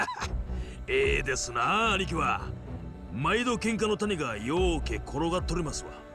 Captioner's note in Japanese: 笑い